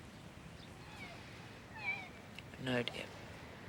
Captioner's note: bird squawking